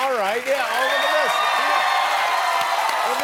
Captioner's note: cheering